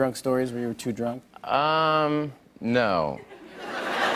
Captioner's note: laughter